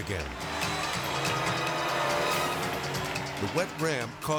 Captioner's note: cycle revving; edgy dramatic music